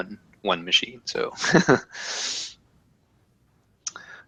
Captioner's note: laugh